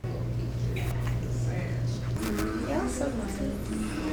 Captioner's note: faint chattering